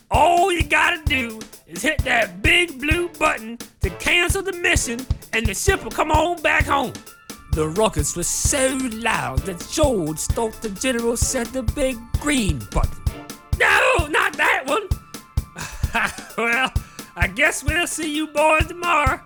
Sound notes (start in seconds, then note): 12.9 low humming noises